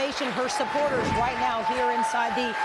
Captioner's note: applause